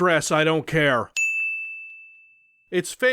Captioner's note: ding